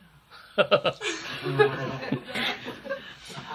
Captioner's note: laughs